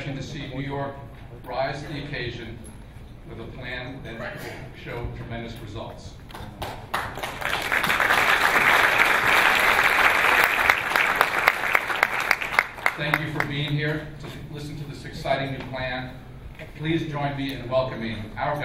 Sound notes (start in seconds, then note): 6.3 clapping